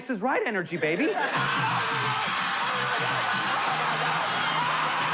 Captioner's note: crowd cheering